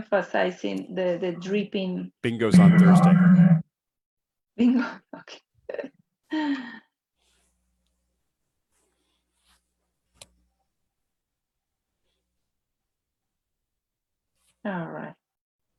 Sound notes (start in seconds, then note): 6.8 laughs